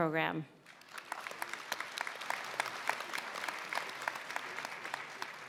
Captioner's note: applause